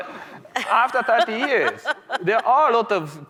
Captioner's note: laughing